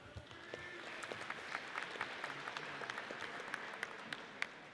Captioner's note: audience applauds